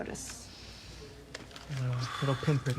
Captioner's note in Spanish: Otis inhala y exhala profundamente